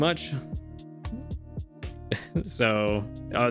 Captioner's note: chuckles